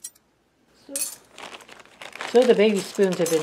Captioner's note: clink